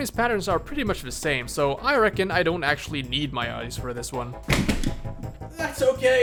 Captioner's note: thunk